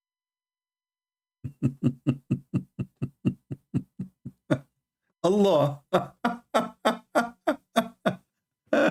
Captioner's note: Ketawa